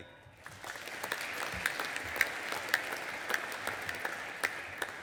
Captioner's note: audience applauding